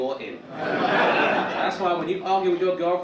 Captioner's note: audience laugh